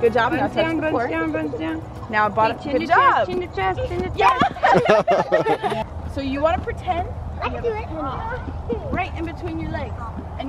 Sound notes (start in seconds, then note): 4.1 laughing